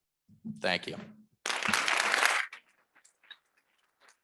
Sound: audience clapping

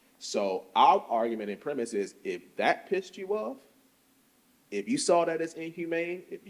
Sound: none

